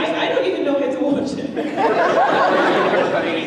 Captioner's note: audience laughs